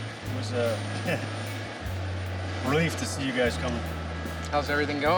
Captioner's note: laughs